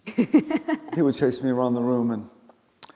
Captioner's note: laughing